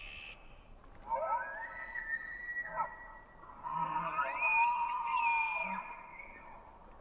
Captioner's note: high-pitched calls